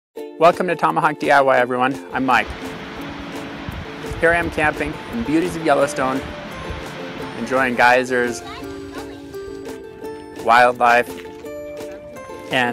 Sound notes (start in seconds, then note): 2.5 rushing water